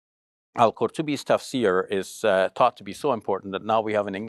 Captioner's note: foreign language